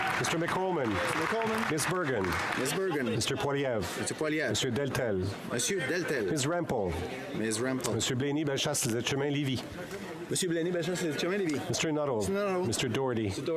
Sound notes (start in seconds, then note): 3.3 applause